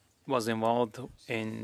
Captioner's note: speaking French